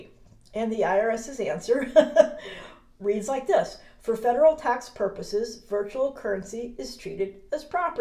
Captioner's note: chuckles